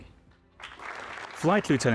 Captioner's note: audience applauding